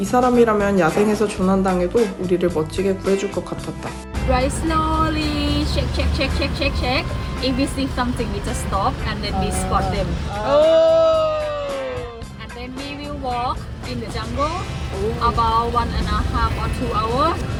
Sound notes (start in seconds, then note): 9.1 audience reaction